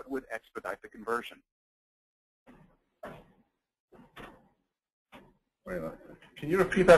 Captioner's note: silence